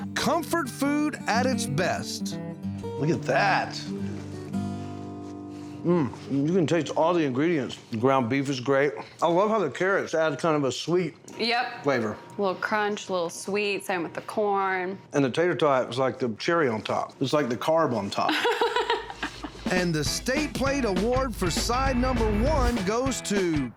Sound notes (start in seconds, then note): 18.3 laughs